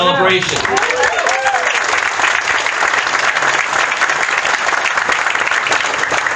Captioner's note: audience applauding and cheering